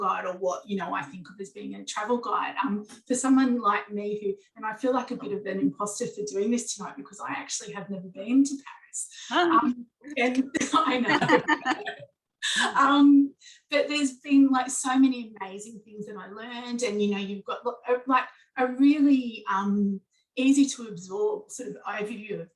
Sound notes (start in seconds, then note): 10.5 chuckling